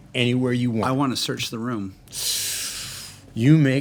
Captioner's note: sharp inhaling